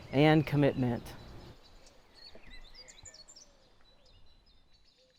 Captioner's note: birds chirping